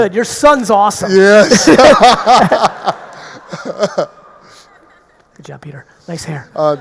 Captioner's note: laughs